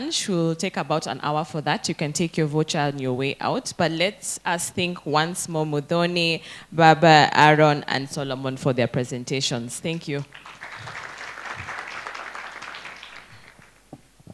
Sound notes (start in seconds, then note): 10.2 applause